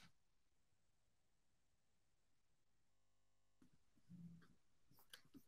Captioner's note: mouse clicking continues